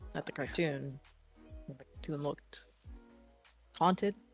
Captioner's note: quietly